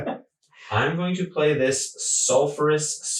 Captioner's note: laughing